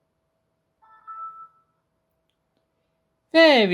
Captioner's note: windows vista logon sound